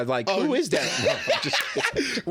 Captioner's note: laughing